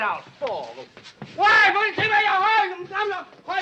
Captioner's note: yelling in Chinese